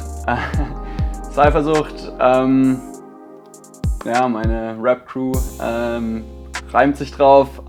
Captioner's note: laughs